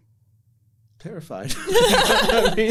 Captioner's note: laughter